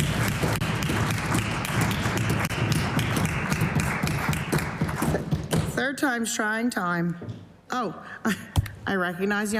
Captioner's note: applause